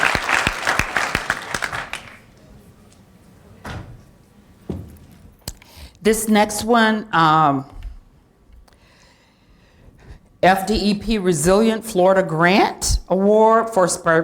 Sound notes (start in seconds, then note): 2.6 applause